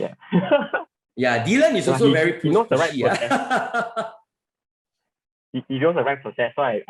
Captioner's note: laughs; laughs